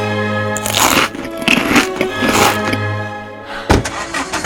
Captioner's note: loud chewing